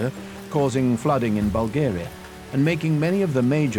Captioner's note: rain pattering